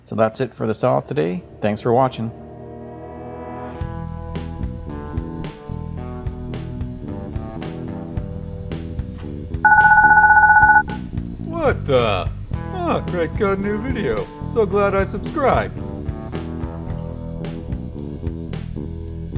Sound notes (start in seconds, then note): 9.6 bell rings